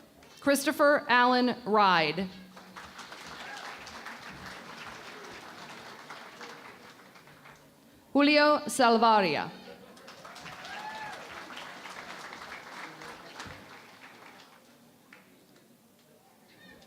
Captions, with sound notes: Christopher Alan Ryde. [ Applause ] Julio Salavarria. [ Cheering and Applause ]